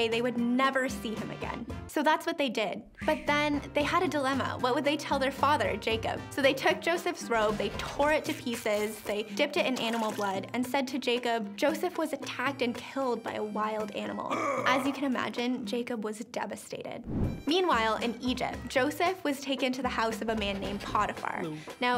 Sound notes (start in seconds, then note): 8.9 cloth ripping; 14.3 voice grunts